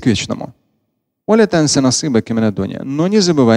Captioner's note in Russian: Говорит на арабском